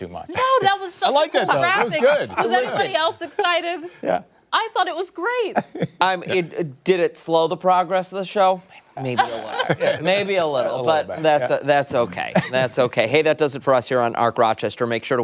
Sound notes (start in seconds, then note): 7.0 laughter